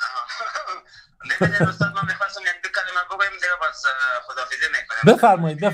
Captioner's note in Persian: خنده